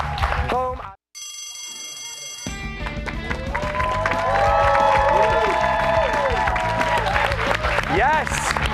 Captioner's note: cheers and applause